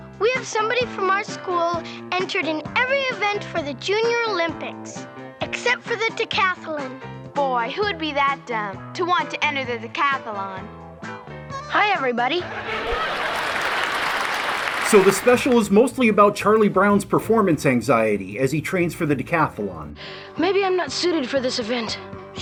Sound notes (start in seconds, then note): 12.3 sitcom laugh track and applause; 20.0 gasping